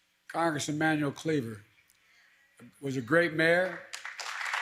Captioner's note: applause